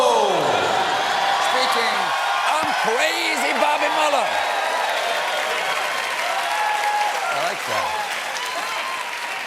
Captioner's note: cheers and applause